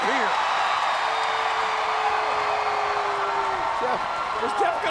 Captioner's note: audience cheering